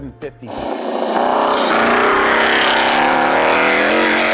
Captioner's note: engine revving